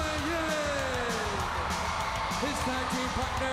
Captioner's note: crowd cheering